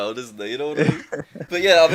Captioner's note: dream laughs